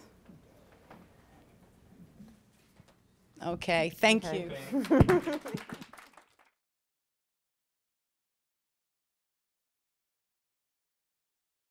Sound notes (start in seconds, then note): 4.7 applause